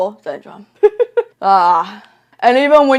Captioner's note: laughs then sighs